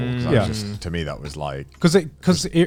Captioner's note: affirmative murmuring